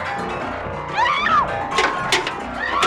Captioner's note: screaming